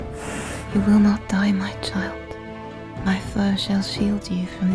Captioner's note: bear growls